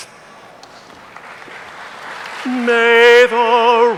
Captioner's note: audience applauding